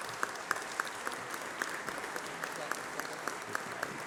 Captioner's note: applause